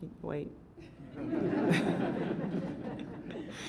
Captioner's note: laughter